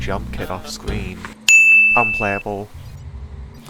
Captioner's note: cinemasins ding sound